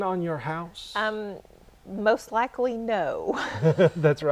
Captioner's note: chuckle